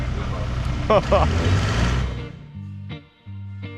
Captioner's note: laughing